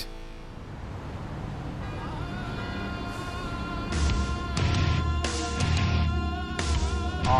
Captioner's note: car horns honking